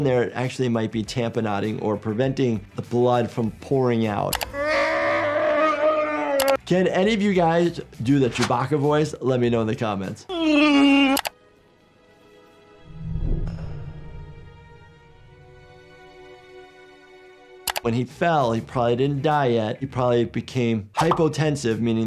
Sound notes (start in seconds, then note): 4.5 Chewbacca roaring; 10.3 imitating a wookie; 12.0 slow, sad music